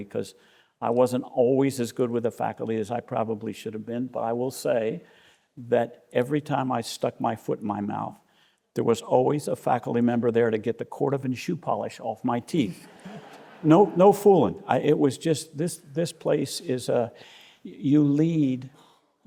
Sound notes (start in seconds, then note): 12.8 audience laughing